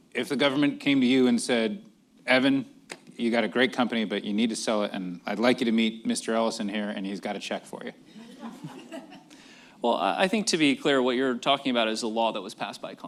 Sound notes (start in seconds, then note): 8.1 laughter